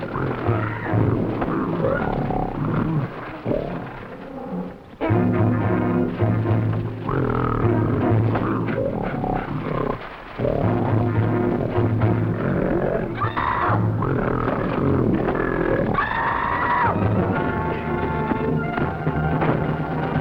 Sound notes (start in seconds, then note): 0.0 Marie screaming; 0.0 tense music; 0.3 gorilla grunting; 0.3 tense music; 13.3 Marie screaming; 13.3 gorilla grunting; 16.2 tense music